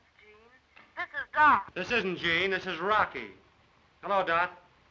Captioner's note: Dot, over phone; in normal voice